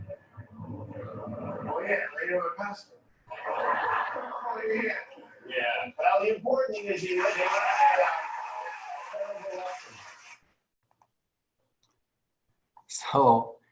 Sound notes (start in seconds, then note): 3.3 laughing; 6.8 cheering